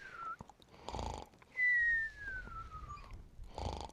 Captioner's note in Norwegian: snøfter